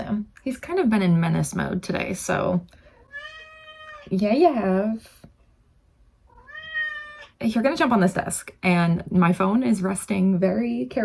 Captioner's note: meow